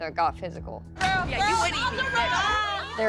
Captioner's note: indistinct shouting